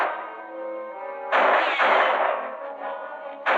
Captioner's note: gunshots